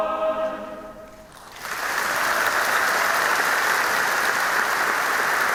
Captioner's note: audience applauding